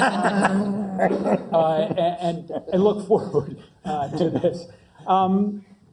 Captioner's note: laugh